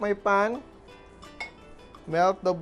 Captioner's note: clang